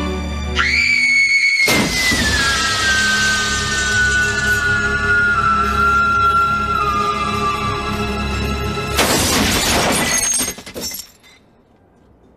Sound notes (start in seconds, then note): 0.5 woman screams; 1.7 glass breaks